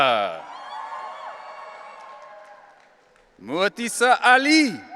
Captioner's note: audience cheering